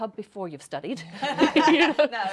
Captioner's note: laughs